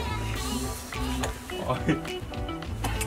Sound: laugh

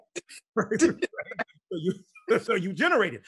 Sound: both laughing

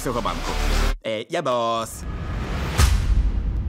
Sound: bad Italian accent

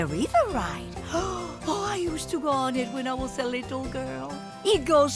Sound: gasping

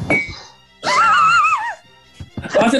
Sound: sniggering

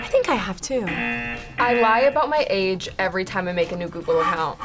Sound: buzzer

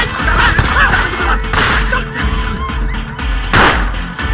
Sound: gunshot

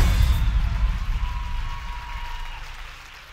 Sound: applause

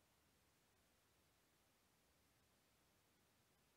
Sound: none

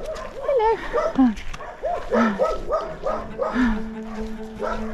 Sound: nervous breathing

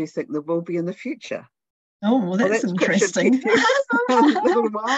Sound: laughter

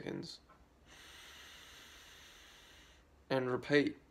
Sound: inhaling

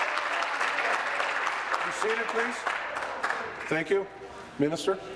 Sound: applause

